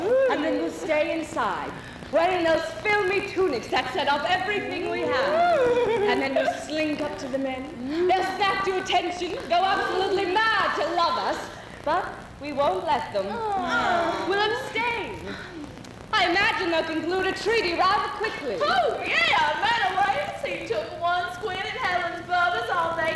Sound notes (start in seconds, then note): 4.6 women ooh; 13.3 women groan